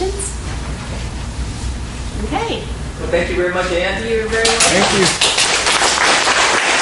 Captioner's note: applause